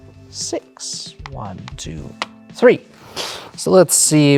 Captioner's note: game piece tapping